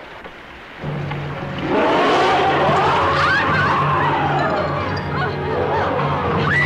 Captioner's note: Mary-Belle screaming; creature roaring; Colonel Cabeza speaking in Spanish